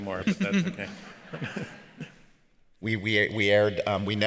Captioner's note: laughs